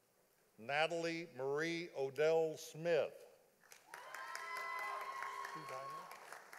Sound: audience applauding

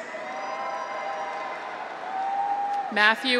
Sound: audience applauds; graduates cheer

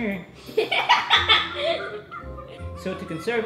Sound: laughs

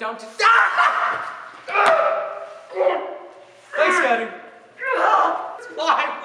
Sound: SCOTTIE screaming

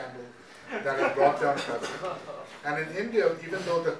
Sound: audience laughing

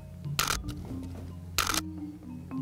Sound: camera clicks

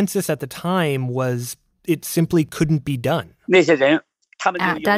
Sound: speaking Mandarin

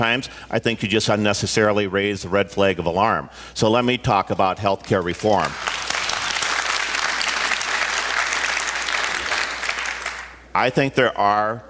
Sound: applause

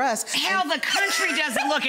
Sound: laughing

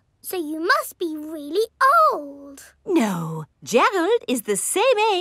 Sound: none

